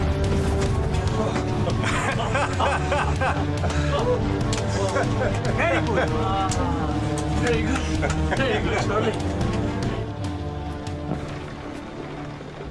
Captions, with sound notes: (pilots laugh) - Very good! - Very good. Very good, Charlie.